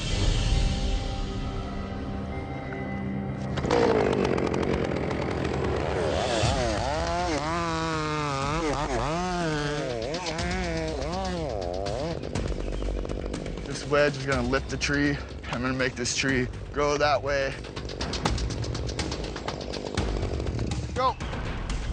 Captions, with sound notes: Elon, back. (buzzing chainsaw) This wedge is gonna lift the tree. I'm gonna make this tree go that way.